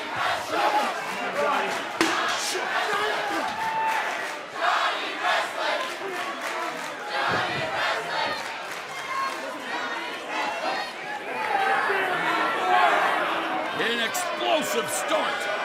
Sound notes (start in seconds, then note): 4.9 fans chanting